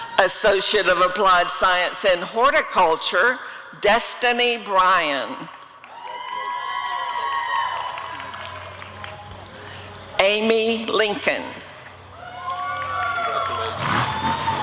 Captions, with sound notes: Associate of Applied Science in Horticulture— Destiny Bryan [applause and cheering] Amy Lincoln [applause and cheering]